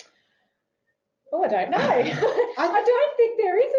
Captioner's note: laughing